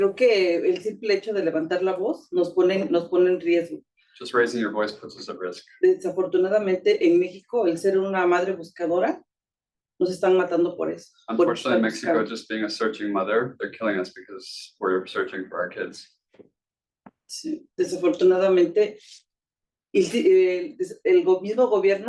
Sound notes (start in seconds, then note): 0.1 speaking Spanish; 6.0 speaking Spanish; 17.9 speaking Spanish